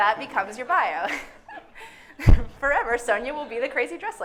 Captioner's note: everyone laughing